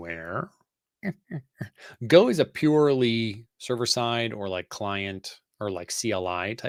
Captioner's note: laughing